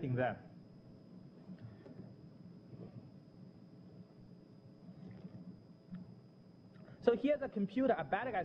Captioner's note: pause